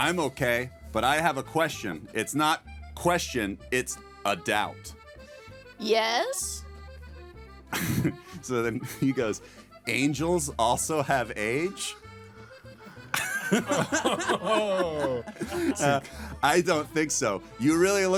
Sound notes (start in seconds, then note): 7.7 laughing; 12.8 laughing